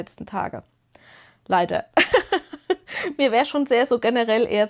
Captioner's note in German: gelächter